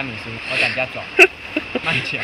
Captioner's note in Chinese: 呵呵呵